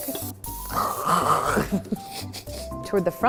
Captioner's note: spraying; coughing